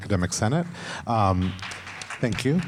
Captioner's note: audience clapping